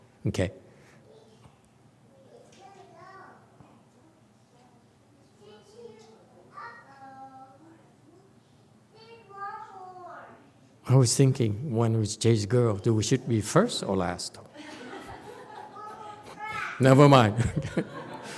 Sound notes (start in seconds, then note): 17.3 audience laughs